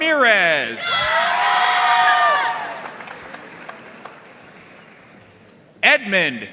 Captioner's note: audience cheering and applauding